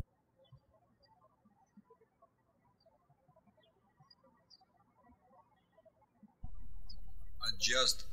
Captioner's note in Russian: птички щебечут